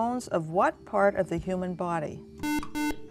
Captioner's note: buzzer